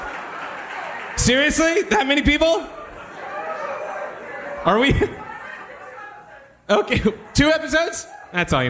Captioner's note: sizable applause; audience shouting